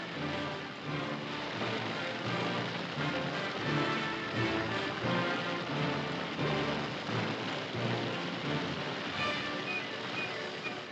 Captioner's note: fire roaring; dramatic music